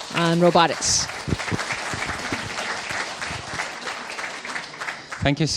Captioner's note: audience clapping